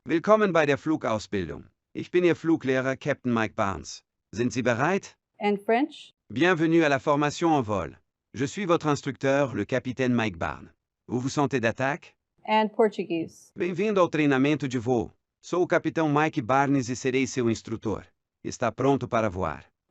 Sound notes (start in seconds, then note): 0.1 male voice 6 speaking german; 1.9 speaking german; 6.3 male voice 6 speaking french; 8.3 speaking french; 13.5 male voice 6 speaking portuguese; 15.4 speaking portuguese